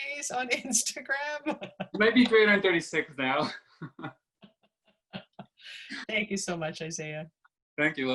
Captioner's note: laughter